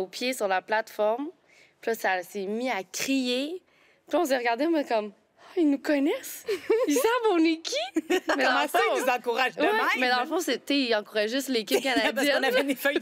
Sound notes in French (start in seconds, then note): 7.9 rires